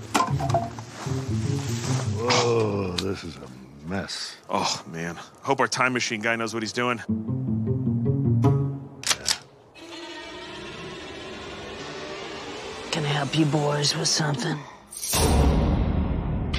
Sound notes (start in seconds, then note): 9.0 gun cocks